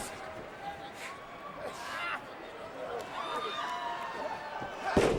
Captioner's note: crowd chattering continues; wrestlers thudding